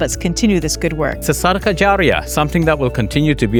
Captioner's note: speaks in foreign language